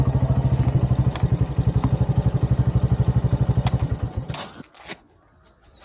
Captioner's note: engine turning off